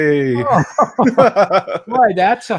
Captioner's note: laughing